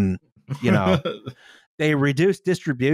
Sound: laughs

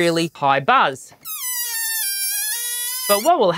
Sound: balloon wheezing

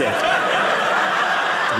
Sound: audience laughing

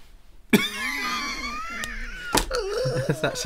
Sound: wheezing Laughter

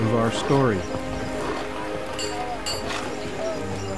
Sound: sounds of workers

